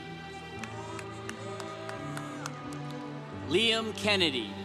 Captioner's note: congregation cheering